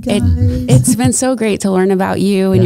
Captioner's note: chuckling